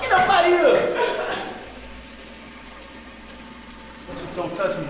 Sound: toilet draining

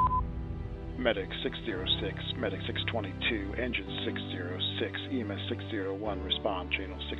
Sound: beeps; over Radio

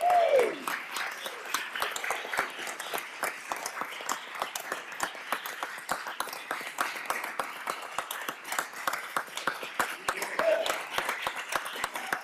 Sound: cheers and applause

